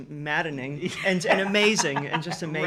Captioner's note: laughing